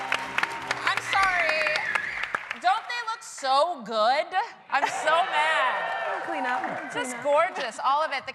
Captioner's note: cheers and applause